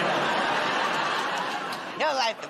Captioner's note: laughter